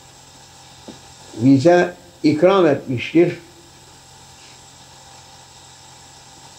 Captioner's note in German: saws